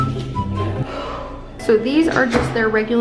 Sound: sighs

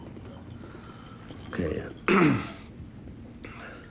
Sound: clears throat

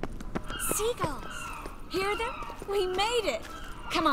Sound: seagulls calling

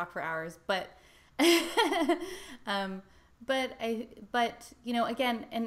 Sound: laughs

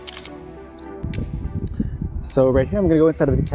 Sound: camera clicking

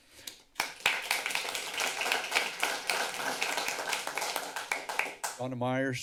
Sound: applause

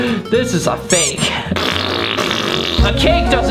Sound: fart noises

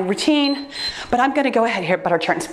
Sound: timer beeps

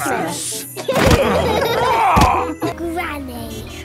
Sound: laughing

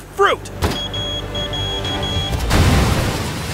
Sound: detonator beeping; explosion bangs

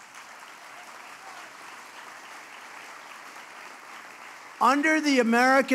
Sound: applause

